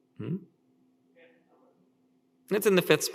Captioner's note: speaker speaks faintly